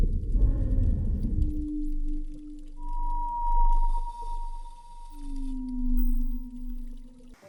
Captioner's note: whale Sounds